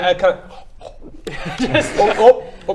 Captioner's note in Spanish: comiendo